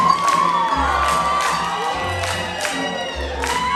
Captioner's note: applause